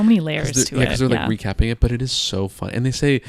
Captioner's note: chuckles